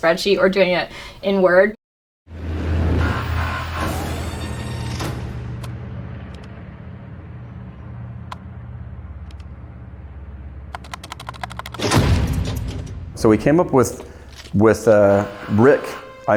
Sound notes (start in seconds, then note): 2.9 electronic noises; 4.9 door opening; 10.7 typing sounds; 11.8 boom